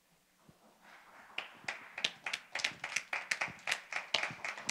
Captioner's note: audience claps